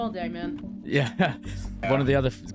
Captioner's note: laughs